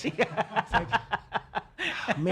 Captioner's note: laughing